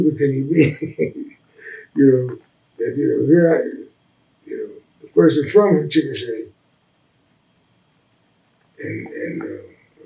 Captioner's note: laughs